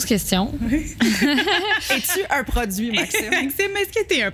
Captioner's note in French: rires